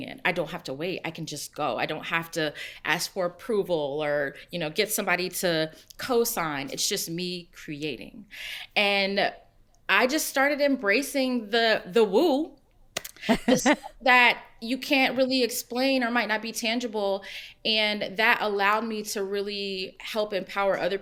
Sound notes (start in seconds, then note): 13.1 laughs